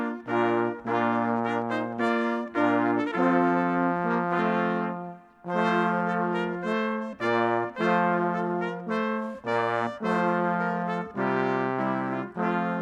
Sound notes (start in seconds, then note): none